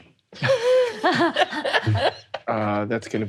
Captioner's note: all laughing